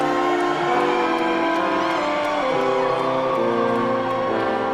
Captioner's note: audience applauding